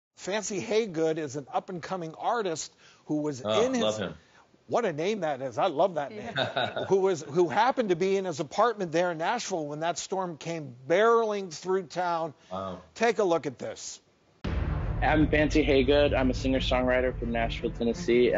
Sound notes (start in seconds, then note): 6.2 laughing; 14.4 intense music